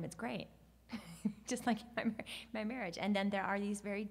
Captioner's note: laughs